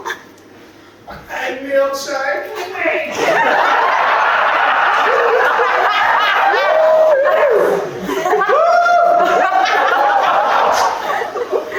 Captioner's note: audience laughs